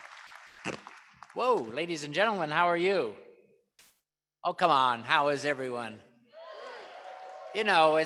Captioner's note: applause